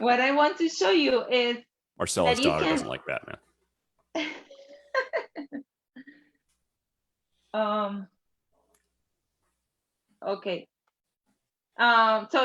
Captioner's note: laughs